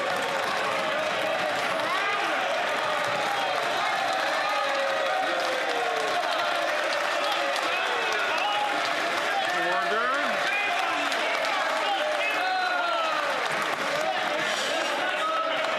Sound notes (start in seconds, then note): 3.6 some Applause